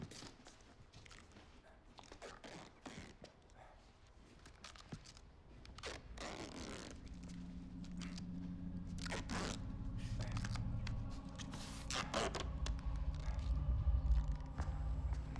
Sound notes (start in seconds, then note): 1.1 duct tape ripping